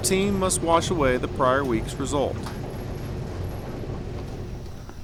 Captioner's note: washing machine churning